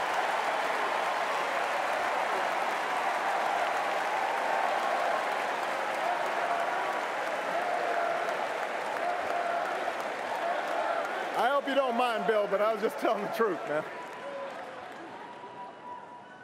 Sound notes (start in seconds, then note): 0.7 cheers & applause